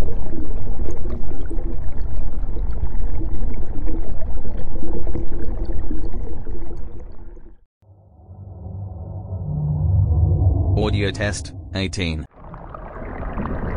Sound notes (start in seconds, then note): 7.8 eerie ethereal transitional SFX